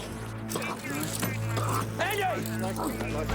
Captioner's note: police radio chattering